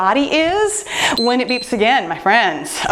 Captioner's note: timer beeps